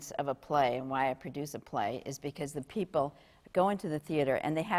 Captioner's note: none